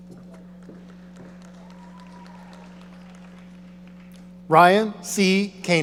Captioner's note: audience applauding